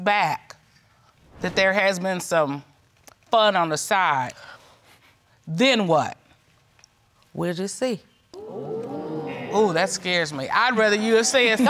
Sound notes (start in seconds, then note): 8.4 audience exclaiming